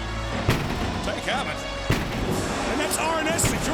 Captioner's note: banging on door